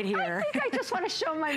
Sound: laughter

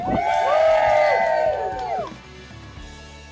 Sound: cheering

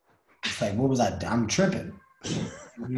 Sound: Lewis chuckles

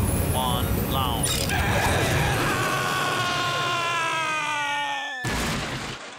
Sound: screaming

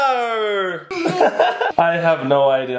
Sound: laughing

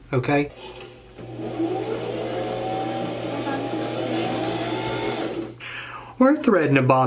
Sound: sewing machine

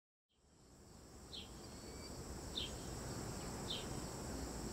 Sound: birds chirping

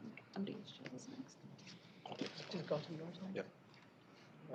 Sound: indistinct chatter

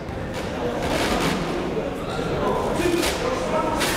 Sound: chatter

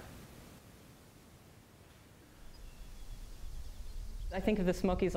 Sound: birds chirping

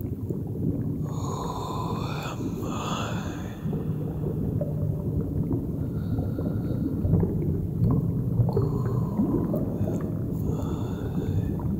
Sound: whispering

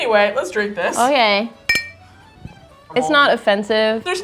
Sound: glasses clinking

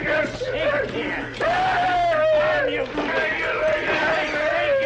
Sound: Barney screams

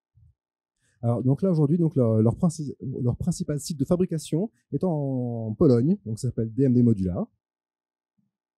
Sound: translating into french

